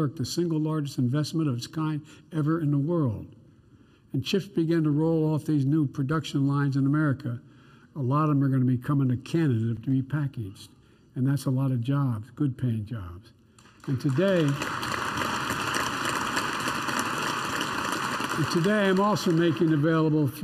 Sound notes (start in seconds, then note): 13.5 applause